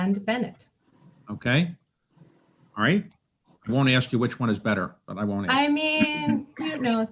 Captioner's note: laughter